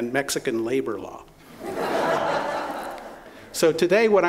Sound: laughter

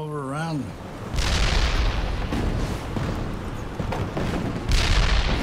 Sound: cannon shots exploding

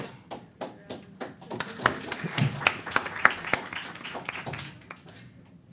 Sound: applause

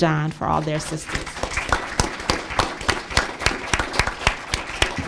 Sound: applause

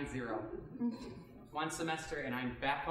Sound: audience chuckling

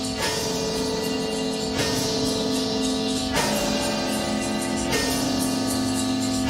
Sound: bells clanging

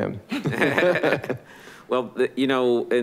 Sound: all laughing

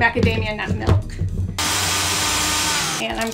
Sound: lid rattling; blender whirring

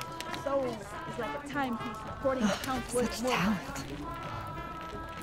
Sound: woman reciting poetry; sighs

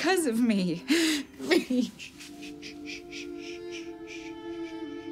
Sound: sobbing

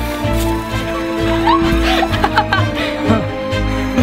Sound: laughing

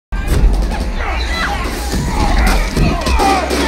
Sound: gunfire

